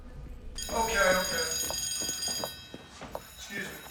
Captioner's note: bell ringing